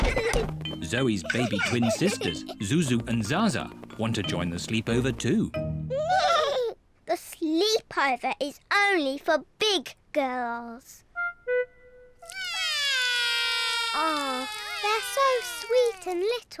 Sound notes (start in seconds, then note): 5.5 both whinny; 12.2 both wail